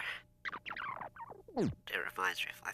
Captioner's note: playing in fast rewind